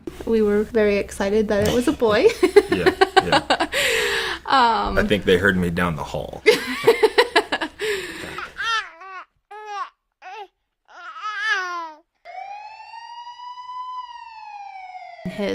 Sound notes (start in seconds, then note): 1.6 laughs; 6.4 both laugh; 9.5 baby coos; 12.2 sirens wail